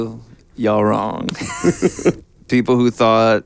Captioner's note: laughing